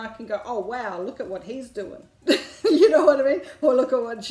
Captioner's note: laughs